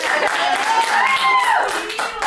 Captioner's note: crew clapping, whooping; everyone cheering, applauding